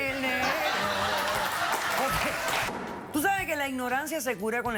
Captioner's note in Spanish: Risotadas